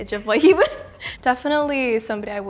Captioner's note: laughs